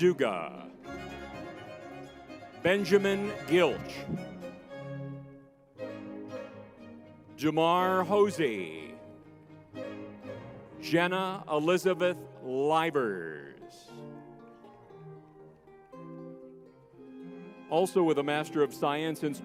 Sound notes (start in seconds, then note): 14.8 crowd cheering; 14.8 lively music